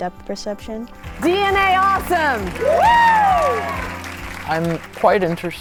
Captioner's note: crowd cheering